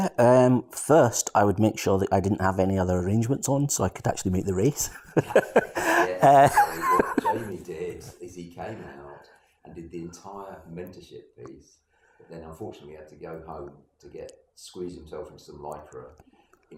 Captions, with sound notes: - Yeah, and first I would make sure that I didn't have other arrangements on so I could actually make the race (laughs) - What Jamie did is he came out, and did the entire mentorship phase, then unfortunately had to go home, to get, squeeze himself from some litra,